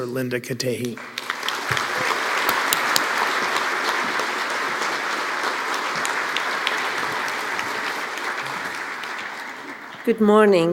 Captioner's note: applause